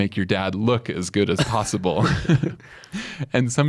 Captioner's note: both chuckle